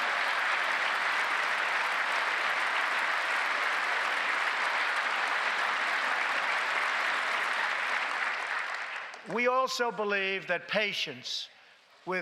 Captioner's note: applause